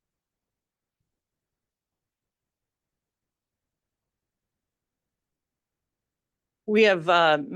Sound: silence

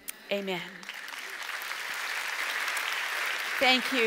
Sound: audience applauds

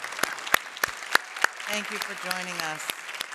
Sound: applause

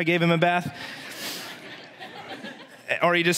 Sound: congregation laughs

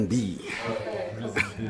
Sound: guys giggle

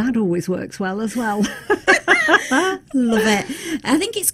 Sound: laughing

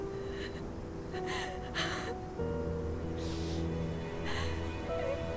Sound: Googly sobbing

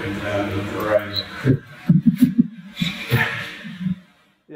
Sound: laugh

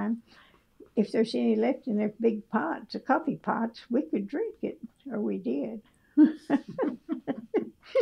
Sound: laughter

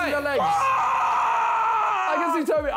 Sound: Tobi yells

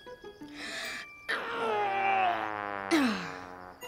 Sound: groaning

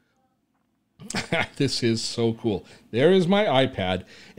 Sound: laughs

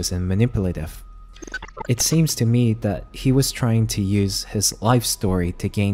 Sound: glitch sound effects

